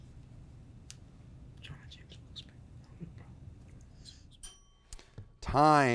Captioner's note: faintly speaking